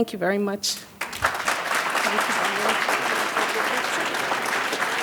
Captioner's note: audience claps